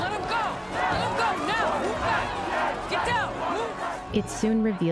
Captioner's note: commotion